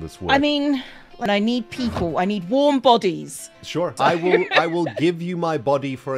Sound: giggles

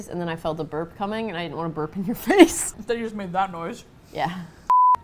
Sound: laughs; cheerfully

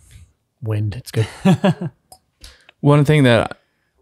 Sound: laughs

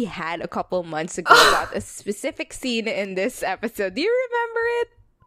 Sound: laughs

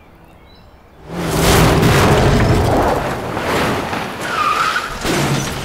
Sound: tires screeching; crashing sounds

